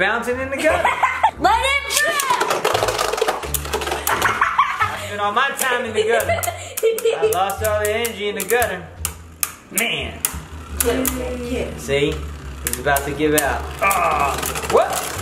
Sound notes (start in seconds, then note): 0.6 laughs; 4.3 laughs